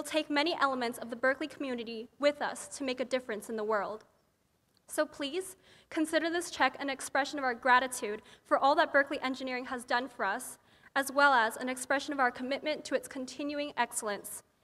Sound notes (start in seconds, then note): none